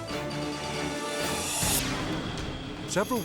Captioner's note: air whooshes